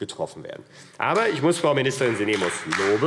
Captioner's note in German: Beifall AfD